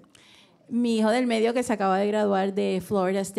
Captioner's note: speaking in foreign language